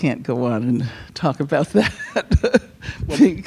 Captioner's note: laughs